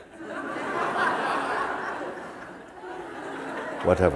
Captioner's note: laughter